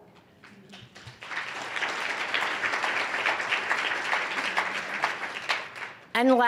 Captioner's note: applause